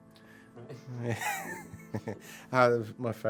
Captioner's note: laughs